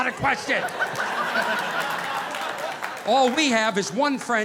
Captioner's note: audience laughing